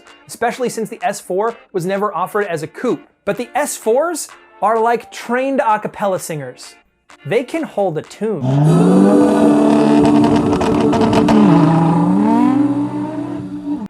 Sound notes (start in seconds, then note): 8.5 car engine revving